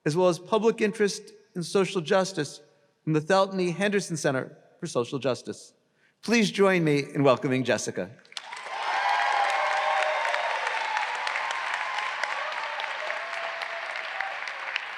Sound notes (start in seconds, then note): 8.3 all applauding; 8.4 graduates cheering